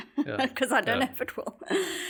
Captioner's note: laugh